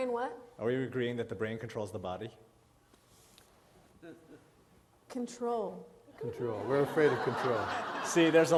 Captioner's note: laughter